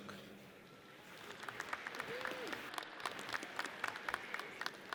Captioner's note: audience applauds